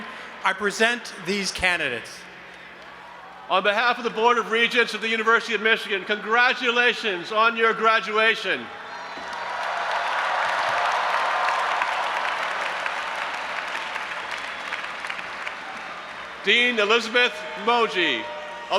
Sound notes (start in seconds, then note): 8.8 audience applauding and cheering